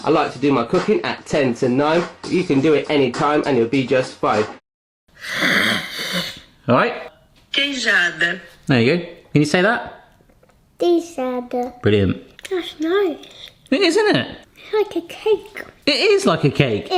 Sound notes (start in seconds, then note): 5.2 hisses; 7.7 phone Voice